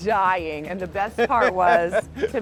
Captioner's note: laughing